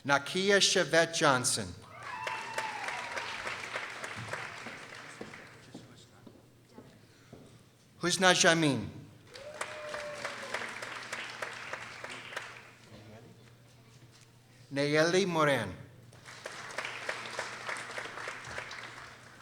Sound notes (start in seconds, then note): 1.8 people cheering; 9.2 people applauding; 16.1 people applauding